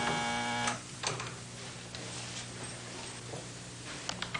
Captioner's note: buzzer